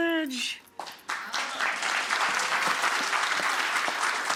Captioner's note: audience applause